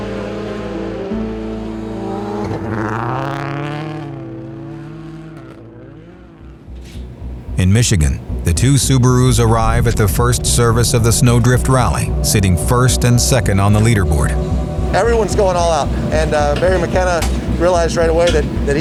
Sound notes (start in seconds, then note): 0.6 light music; 3.6 engine revving